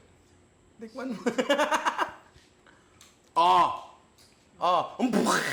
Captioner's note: laughs